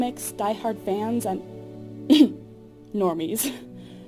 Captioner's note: ahem